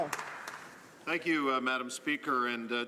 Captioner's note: some Applause